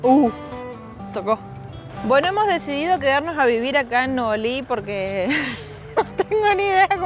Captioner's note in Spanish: risas